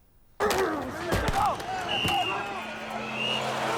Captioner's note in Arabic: هتاف; صافرة